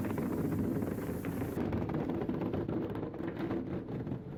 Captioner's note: thread cutting